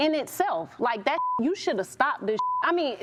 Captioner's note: beep